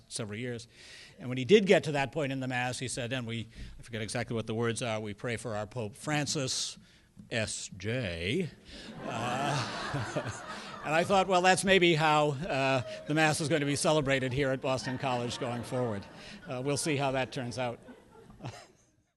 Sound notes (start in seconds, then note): 8.8 laughter